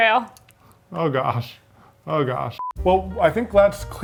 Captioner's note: digital beeping